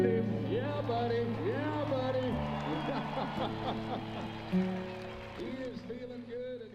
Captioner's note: laughs